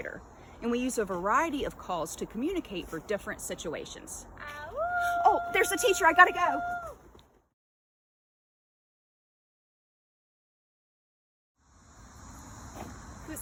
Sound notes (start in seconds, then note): 4.7 awooooooo